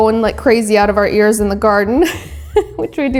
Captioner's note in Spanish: risas